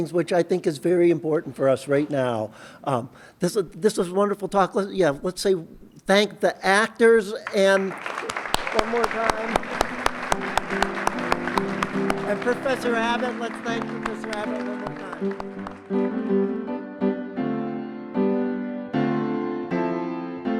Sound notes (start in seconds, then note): 10.0 applause; 15.4 closing music